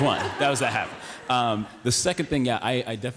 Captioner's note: laughter